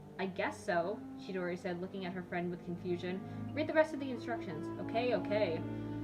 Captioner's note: none